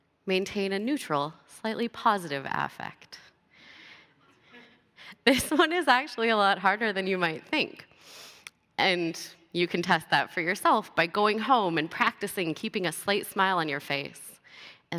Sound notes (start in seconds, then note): 3.3 laughter